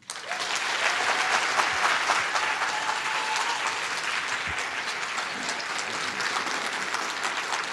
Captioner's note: applause